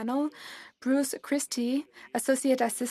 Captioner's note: speaking French